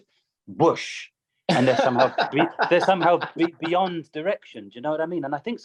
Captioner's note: laughter